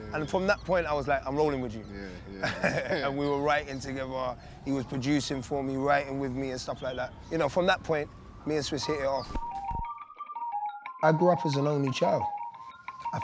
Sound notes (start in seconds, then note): 1.9 laughs; 8.8 synth music